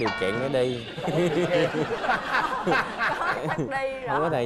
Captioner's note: laughing